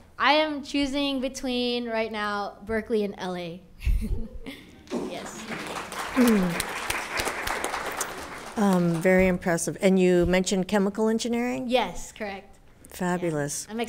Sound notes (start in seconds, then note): 4.8 audience applauds